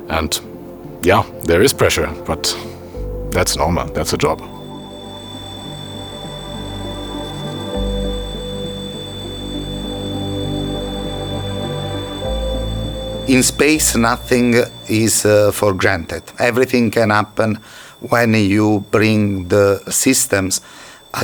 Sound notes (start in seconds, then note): 5.7 ambient music continues; 5.7 rocket whirs